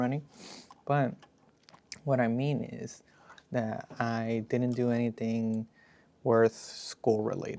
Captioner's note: snorts